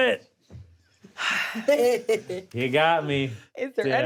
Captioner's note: laughs